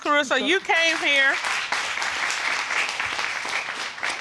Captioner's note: audience applauding